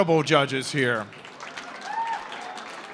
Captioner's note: applause